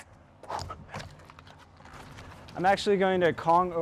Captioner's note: feet on pavement